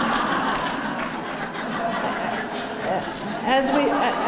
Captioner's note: laughter